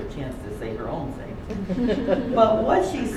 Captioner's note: laughter